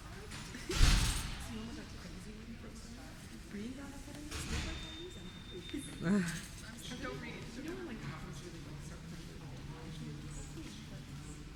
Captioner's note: background chatter